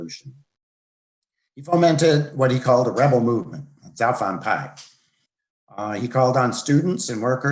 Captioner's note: speaks Chinese